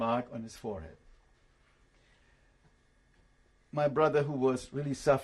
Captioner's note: pauses for 3 seconds